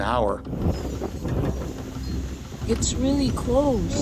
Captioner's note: wind gusting